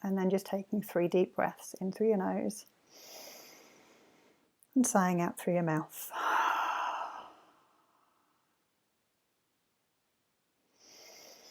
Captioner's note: exhales; inhales